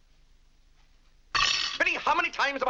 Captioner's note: silverware clattering